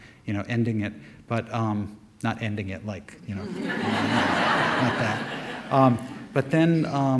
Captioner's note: audience laughter